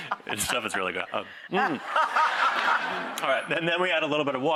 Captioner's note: laughter